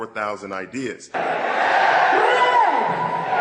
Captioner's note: cheers and crowd sounds